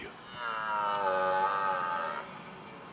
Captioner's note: stag roaring